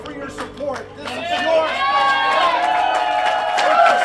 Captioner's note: crowd cheering